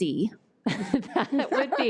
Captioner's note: laughing